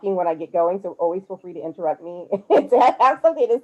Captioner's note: laughs